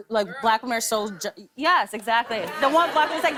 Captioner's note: laughter